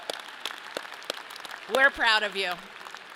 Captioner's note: audience applauds